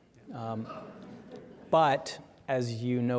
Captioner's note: audience chuckling